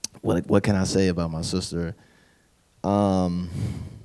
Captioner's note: none